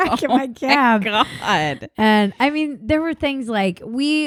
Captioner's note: laughs